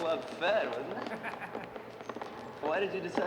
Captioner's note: laughing